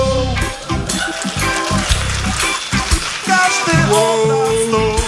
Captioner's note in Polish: oklaski publiczności